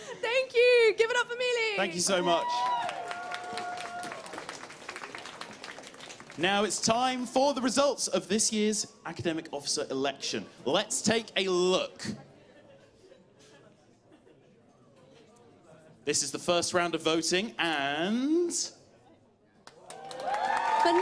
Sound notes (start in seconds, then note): 4.4 cheers; 12.4 laughter; 19.7 cheers